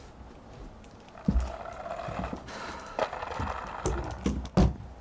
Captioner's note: kids on skateboards pass by outside